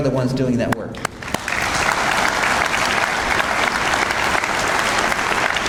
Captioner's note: audience applauds